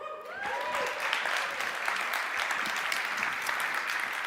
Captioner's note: audience clapping